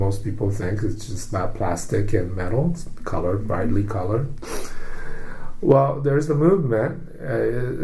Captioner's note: inhales